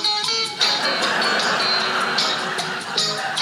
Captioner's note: audience laughing